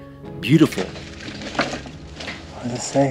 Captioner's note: equipment chunking